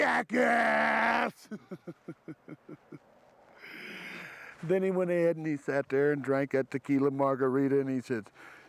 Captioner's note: laugh